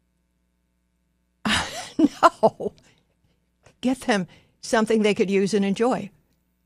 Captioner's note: laughs